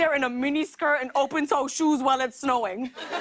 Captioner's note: laughter